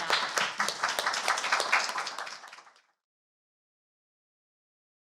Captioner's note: applause